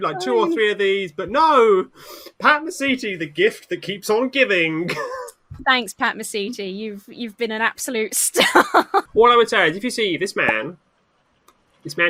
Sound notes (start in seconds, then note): 4.8 laughs